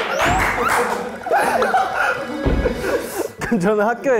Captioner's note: nervous laughter